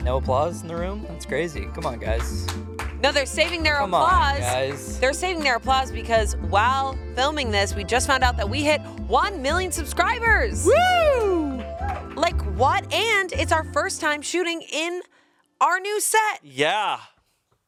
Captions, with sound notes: - No applause in the room? That's crazy. Come on, guys. (crew applauds) - No, they're saving their applause- - Come on, guys. - They're saving their applause because while filming this, we just found out that we hit 1 million subscribers! - Whoo! - Like, what? And it's our first time shooting in our new set. - Yeah.